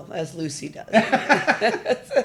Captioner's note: laughing